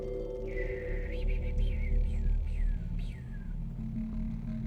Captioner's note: Patrick whistling